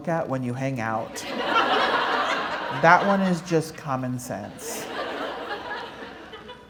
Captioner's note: laughter